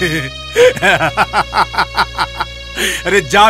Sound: laughs

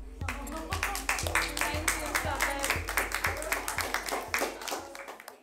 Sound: audience applauding

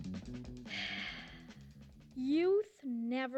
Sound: sighs

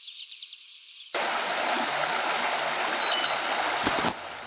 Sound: water running; nature sounds; twigs crunching

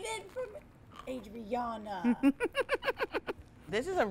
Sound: laughs

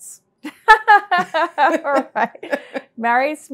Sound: laughs

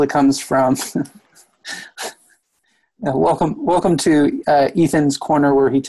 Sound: laughs

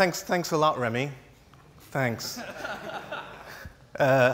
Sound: laughs

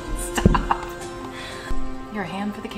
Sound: laughing

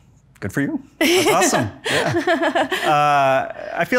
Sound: Priscilla laughs

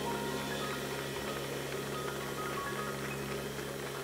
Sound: audience applauds

